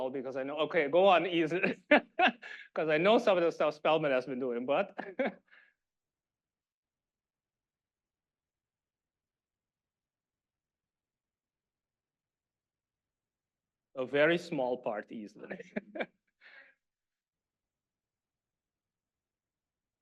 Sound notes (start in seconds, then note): 1.7 laughing